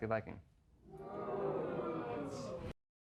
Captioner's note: audience jeering